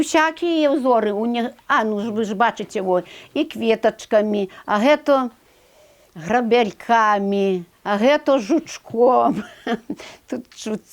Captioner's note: fireplace